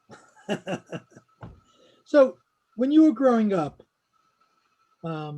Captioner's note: laughs